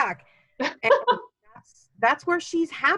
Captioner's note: laughing